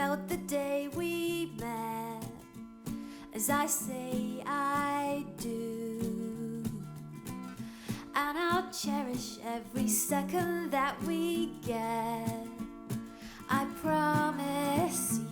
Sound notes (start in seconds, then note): none